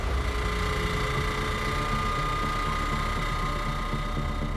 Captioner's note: engine rattling